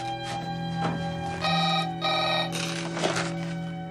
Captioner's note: telephone rings